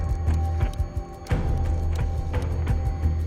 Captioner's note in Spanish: Sonido al discar